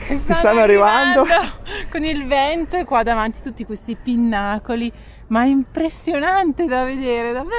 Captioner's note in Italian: risate